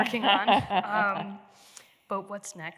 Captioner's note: laughs